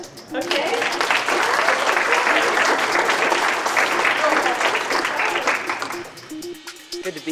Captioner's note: applause